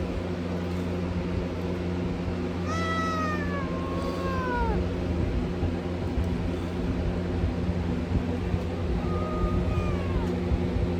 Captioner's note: Caprice meows in anger